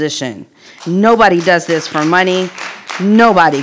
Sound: audience applauding

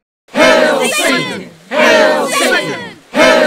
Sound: CROWD cheers "Hail Satan!" repeatedly

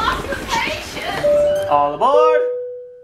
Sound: doorbell ringing

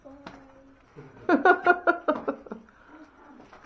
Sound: laughter

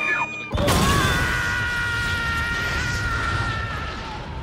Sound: Sir Pentious screams; explosion

